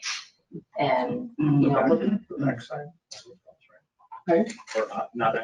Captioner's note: speaking faintly